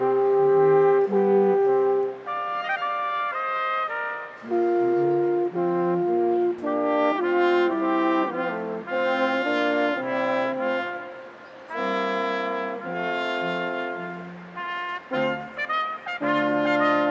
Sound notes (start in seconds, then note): none